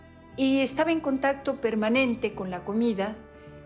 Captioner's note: in Spanish